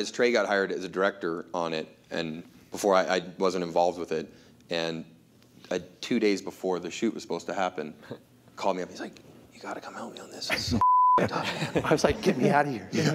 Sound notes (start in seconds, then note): 9.3 whispers; 10.8 beep